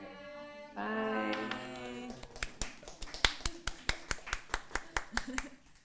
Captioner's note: audience applauding